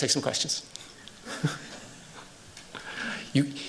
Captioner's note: chuckles